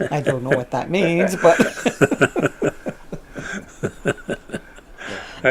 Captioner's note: laughs; laughing